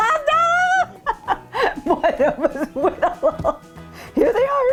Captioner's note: laughing